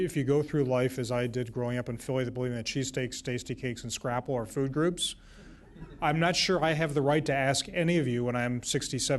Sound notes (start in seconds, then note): 5.7 laughter